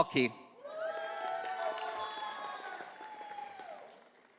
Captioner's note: audience applauding